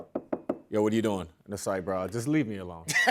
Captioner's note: knocks on table